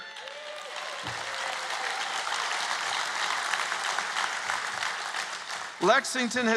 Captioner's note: applause